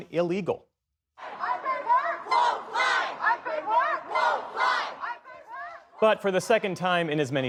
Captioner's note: chanting